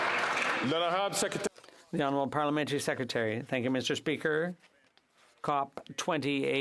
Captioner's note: some Applause